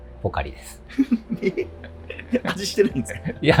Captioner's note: laughing